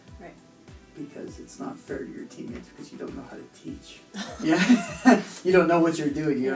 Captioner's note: laughter